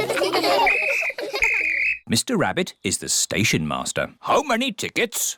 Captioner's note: blows whistle